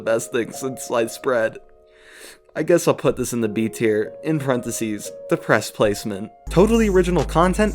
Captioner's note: sniffle